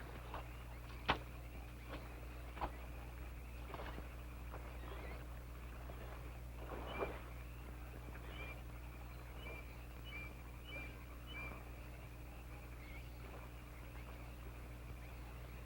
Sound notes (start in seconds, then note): none